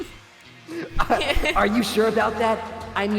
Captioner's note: laughs